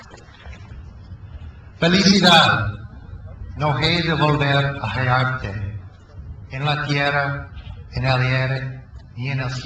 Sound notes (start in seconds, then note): 1.9 speaks in foreign language